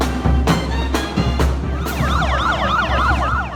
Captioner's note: sirens wailing